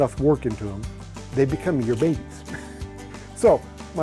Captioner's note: chuckles